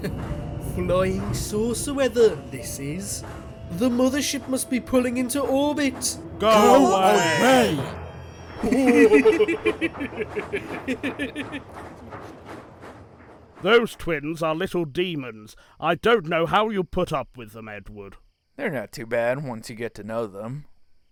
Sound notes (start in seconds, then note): 8.6 bill and ben chuckle